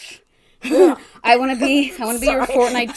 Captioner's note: laughs